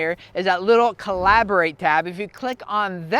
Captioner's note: air whooshing